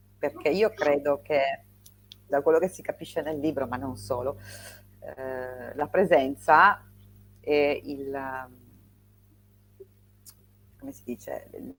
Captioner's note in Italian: sbuffare